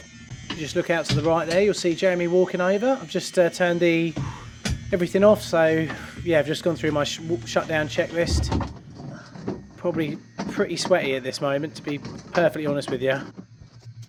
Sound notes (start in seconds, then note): 0.0 electronics buzzing; 9.8 metal banging